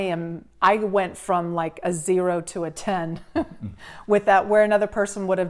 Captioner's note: laughs